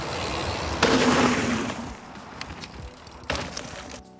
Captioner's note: motor running